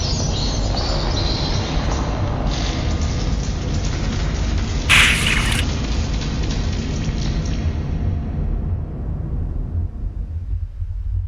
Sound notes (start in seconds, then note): 4.9 rats squeaking; 5.6 tense music fades